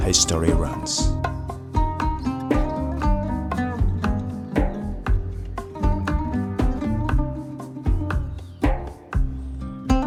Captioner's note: birds chirping